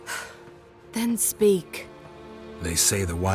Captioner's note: sigh